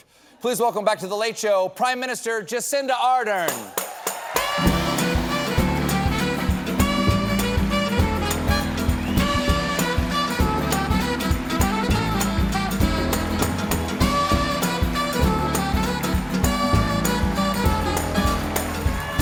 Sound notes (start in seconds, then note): 3.5 applause